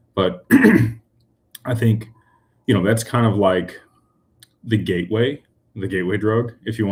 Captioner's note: clears throat